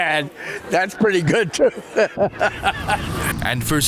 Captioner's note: laughs